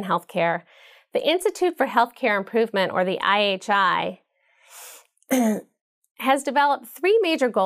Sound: cough

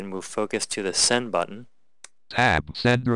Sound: click

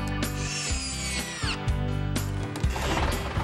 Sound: errrrrrt!

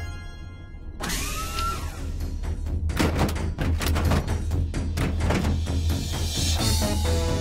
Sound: doors whir; footsteps clang; suspenseful synth music

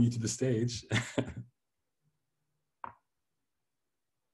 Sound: laughs

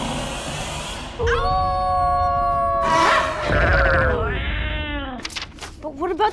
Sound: howling together

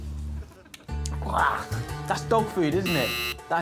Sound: buzzer rings

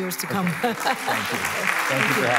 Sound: applause

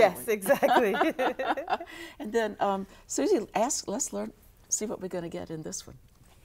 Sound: laughing

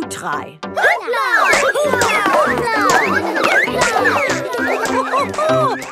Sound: all laugh

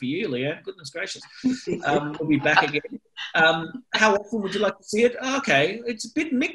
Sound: laughter

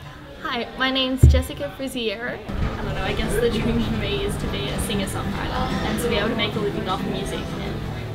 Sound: sound of tram screeching

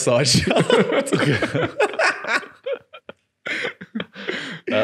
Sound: laughing

